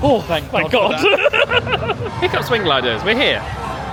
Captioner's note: laughs